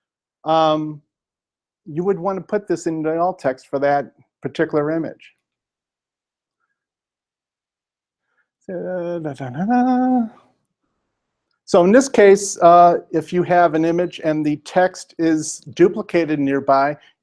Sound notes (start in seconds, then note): 8.8 humming